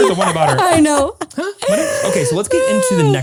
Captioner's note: laughs